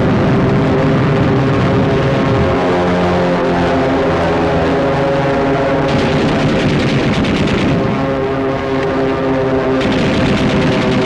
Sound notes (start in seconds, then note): 2.7 plane flying overhead; 5.9 gun firing